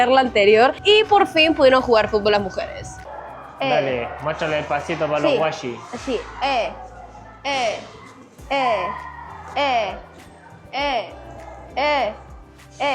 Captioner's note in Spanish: grito